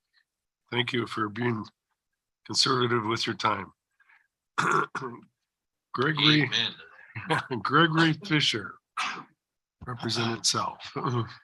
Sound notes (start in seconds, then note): 7.1 laughter